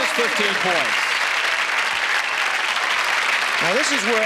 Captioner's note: applause